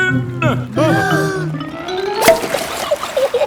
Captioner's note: breathing in